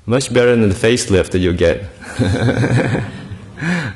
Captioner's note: laughter